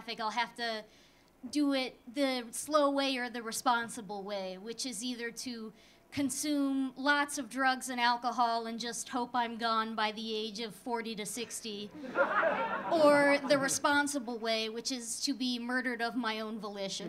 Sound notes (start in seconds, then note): 11.8 audience laughing